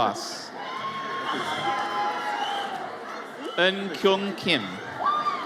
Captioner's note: audience cheers